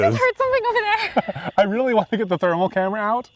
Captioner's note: laughs